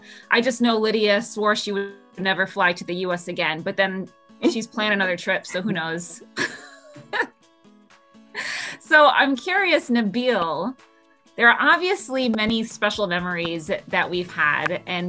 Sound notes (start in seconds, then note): 6.4 laughs